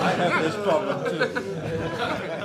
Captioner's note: laughter